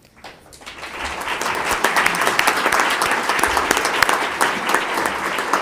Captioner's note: audience clapping